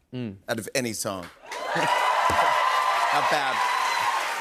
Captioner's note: cheers and applause